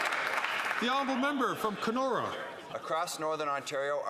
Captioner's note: some Applause